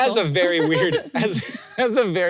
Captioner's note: laughs